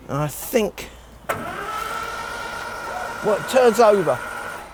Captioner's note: engine rumbling